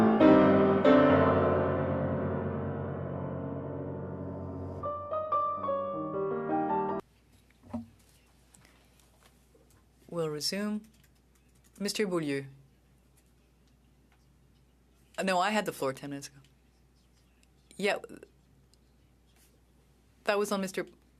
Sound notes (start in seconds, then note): 8.0 speaking French